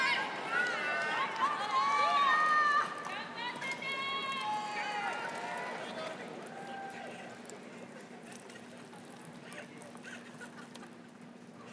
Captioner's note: crowd cheering; laughing